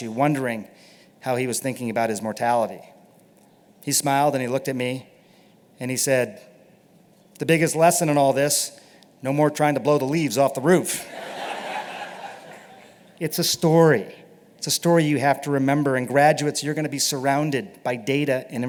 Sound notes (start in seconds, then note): 11.0 laughter